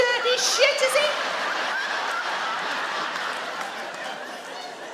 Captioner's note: audience laugh